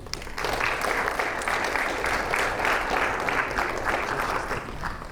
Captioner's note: audience applauding